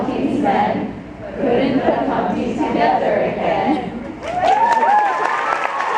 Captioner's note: audience claps and cheers